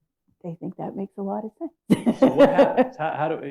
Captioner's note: laughs